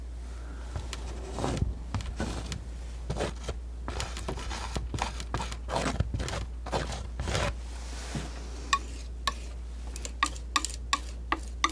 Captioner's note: scratching